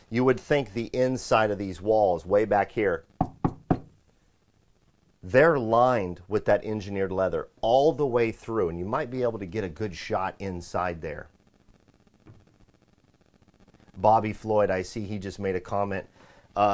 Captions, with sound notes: You'd think would the inside of these walls, way back here. (knocking sound) They're lined with that engineered leather all the way through, and you might be able to get a good shot inside there. Bobby Floyd I see, he just made a comment.